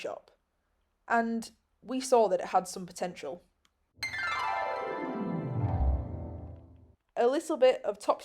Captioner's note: magical chime